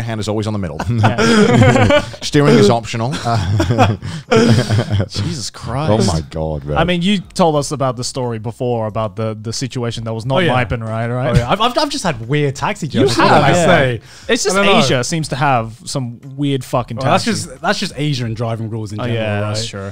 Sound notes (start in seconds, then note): 0.8 laughing; 10.3 murmuring